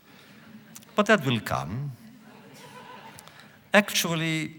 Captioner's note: laughter; laughter